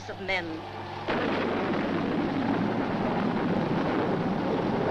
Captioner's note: thunder crashing